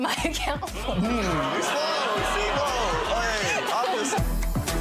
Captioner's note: audience jeering; tense music